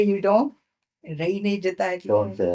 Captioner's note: speaking in foreign language